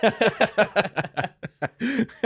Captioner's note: laughing